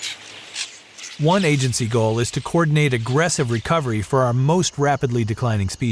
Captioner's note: purple martins vocalizing